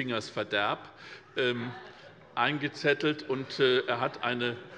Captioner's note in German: Heiterkeit bei der LINKEN